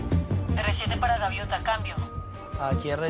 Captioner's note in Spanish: Judy por la radio